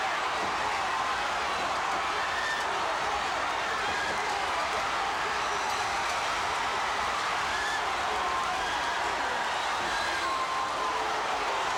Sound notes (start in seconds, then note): 0.2 crowd cheering